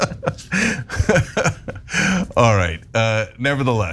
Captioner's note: laugh